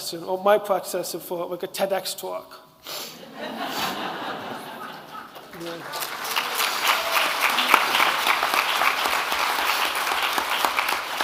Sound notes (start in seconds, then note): 3.2 audience laughing; 6.4 audience clapping